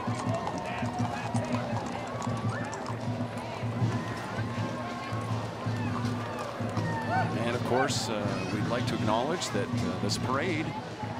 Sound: cheering and Applause

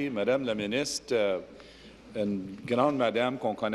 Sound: speaking in French

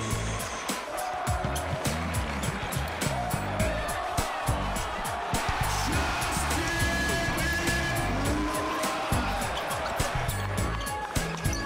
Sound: cheers

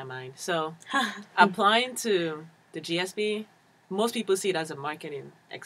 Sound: laugh

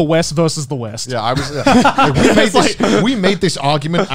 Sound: everyone laughs

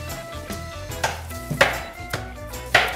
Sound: bang bang

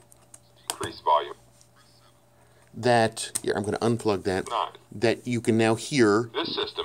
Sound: computer voice says "increase volume"

